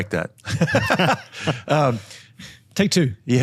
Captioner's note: laughing